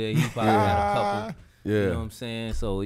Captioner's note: Quentin laughing